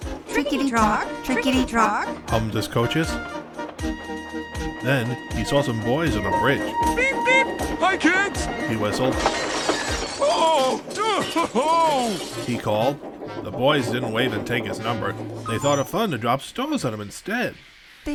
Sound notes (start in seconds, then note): 9.1 glass Breaks